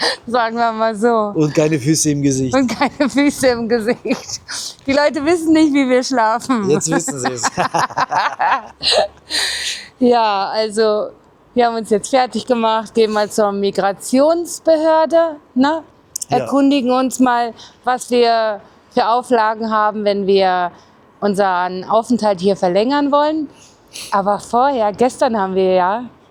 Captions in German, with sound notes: sagen wir mal so. Und keine Füße im Gesicht. Und keine Füße im Gesicht. Die Leute wissen nicht, wie wir schlafen. Jetzt wissen sie es. [gelächter] [japst] Ja. Also, wir haben uns jetzt fertig gemacht. Gehen mal zur Migrationsbehörde, ne? erkundigen uns mal, was wir für Auflagen haben, wenn wir unseren Aufenthalt hier verlängern wollen. Aber vorher, gestern haben wir ja